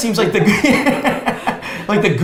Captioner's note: laughs